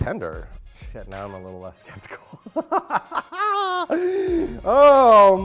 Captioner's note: laughs